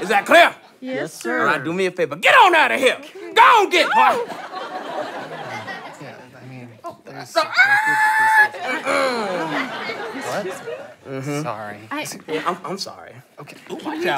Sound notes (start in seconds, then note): 7.5 squeals; 9.1 clears throat